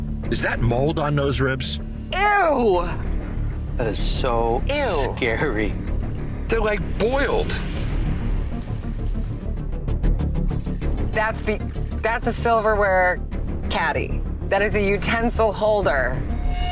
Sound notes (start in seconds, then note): 10.5 liquid dripping